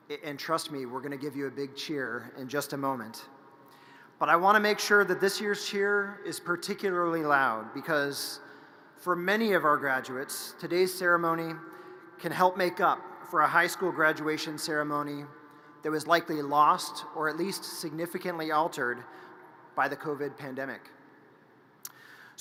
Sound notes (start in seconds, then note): none